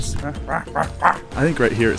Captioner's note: imitating leopard roaring